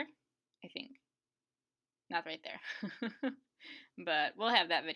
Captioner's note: laughs